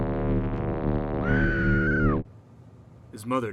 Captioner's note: woman screaming